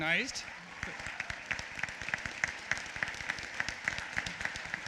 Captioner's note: applause